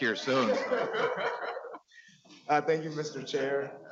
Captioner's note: laughing